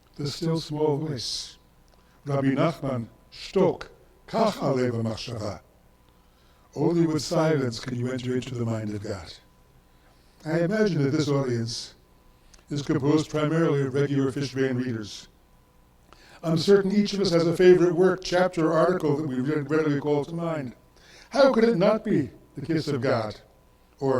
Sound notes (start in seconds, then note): 4.6 speaks in foreign language